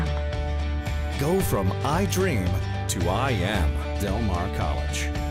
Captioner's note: voiceover